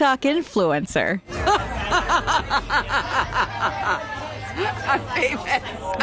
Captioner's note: group laughing